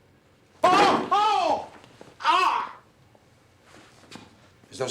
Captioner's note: painful Yelling